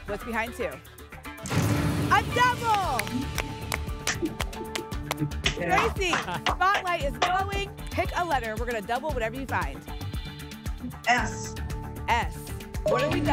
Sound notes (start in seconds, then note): 2.5 applause